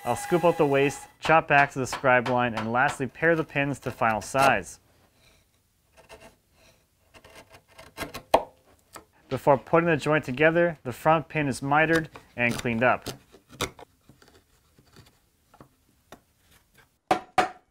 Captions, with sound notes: I'll scoop out the waste, chop back to the scribe line, and, lastly, pair the pins to final size. (wood scratches) (wood pops) Before putting the joint together, the front pane is mitered and cleaned up.